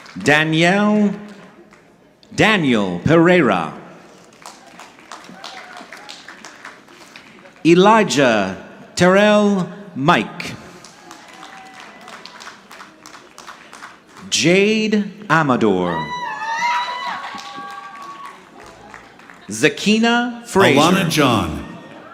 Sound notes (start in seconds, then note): 0.0 audience clapping; 4.3 audience clapping; 10.9 audience clapping; 16.5 audience cheering